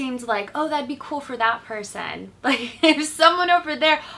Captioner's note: laughs